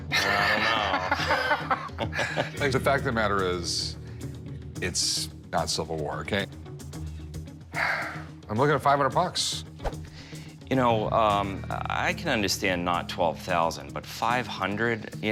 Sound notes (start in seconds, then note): 0.1 laughing; 7.8 sigh